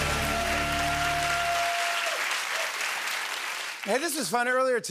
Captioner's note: cheers and applause